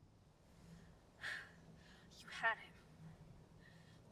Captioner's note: sighs